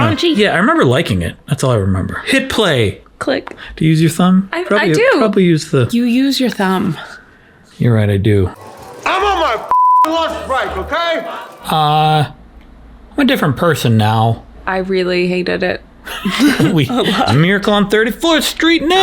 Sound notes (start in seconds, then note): 9.7 beep; 16.0 both laugh